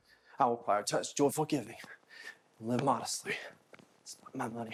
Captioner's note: speaking in foreign language